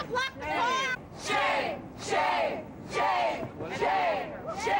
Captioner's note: chant